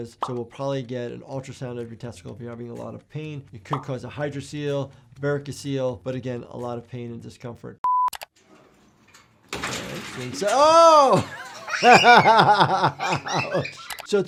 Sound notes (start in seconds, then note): 10.3 swing snaps; 10.8 child laughs